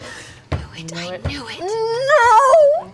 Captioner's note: gasps